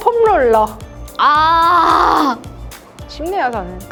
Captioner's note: agony~